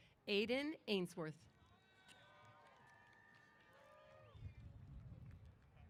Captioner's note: applause & Cheers